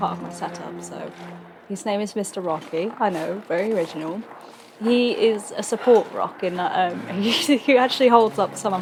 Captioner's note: laughs